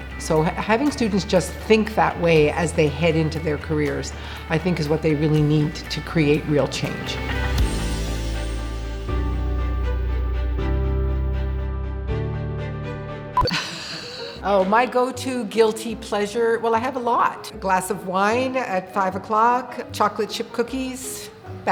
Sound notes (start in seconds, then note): 7.3 light music continues; 13.4 beep; 13.4 laughing